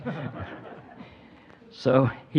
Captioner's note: audience chuckling